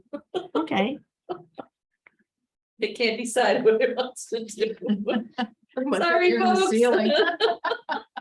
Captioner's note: laughter